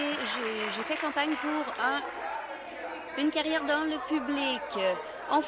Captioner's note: applause